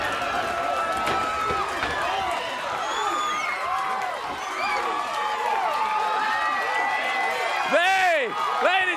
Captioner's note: crowd cheering